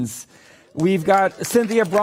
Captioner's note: applause